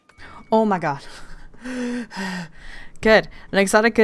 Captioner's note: excited breathing